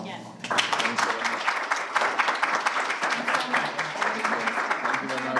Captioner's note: applause and Background Talking